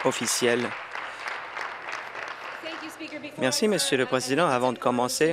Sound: applause

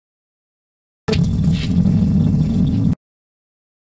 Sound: sound of space

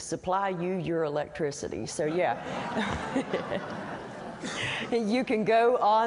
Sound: laughter

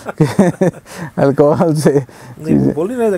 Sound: laughs

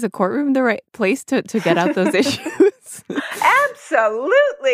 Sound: both laugh

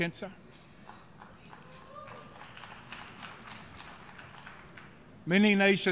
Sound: clapping

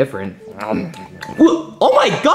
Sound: Luigi chewing; Luigi gasping

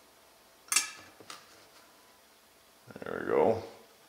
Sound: clang

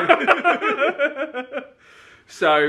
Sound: laughing

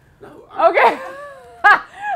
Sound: laughter

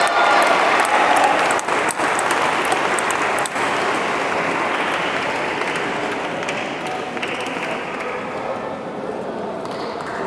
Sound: applause

